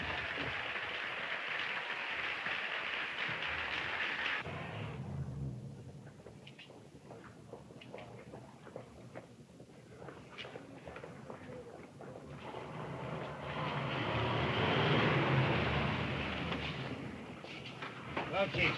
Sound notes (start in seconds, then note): 12.7 car engine revving